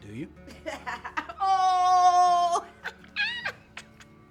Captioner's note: laughs